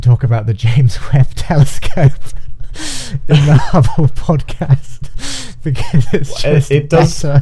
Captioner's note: laughing